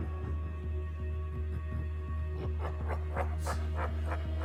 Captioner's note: Shadow laughing